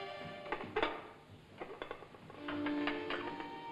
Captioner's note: cart rattles; tray sets down